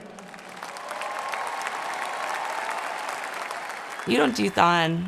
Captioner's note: applause